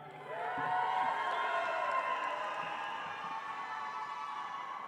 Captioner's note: audience applauds